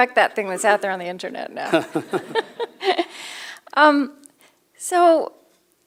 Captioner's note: laughter